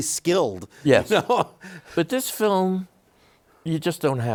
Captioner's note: chuckles